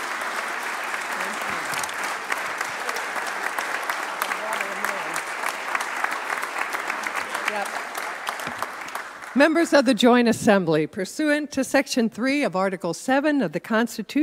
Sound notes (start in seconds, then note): 2.0 applause